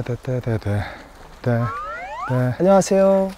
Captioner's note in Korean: 스-윽